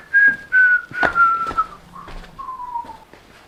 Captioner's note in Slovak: pískanie